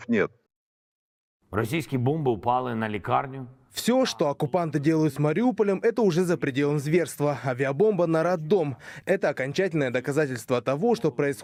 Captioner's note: in Ukrainian